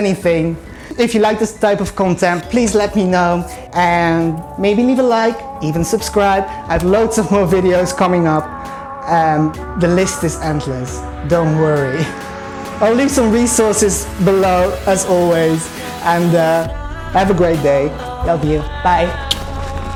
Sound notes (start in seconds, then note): 11.9 laughs